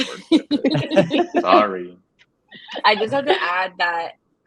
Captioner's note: all laugh